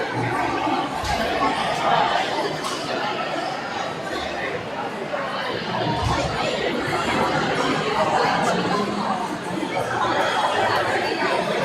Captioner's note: crowd chattering